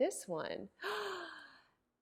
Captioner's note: gasps